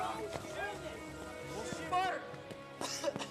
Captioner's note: coughs